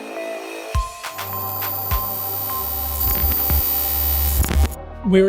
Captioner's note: electricity buzzes